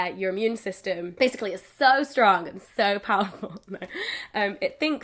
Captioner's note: laughs